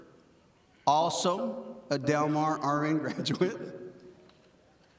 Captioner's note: chuckles